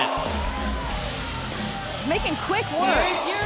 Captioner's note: crowd cheering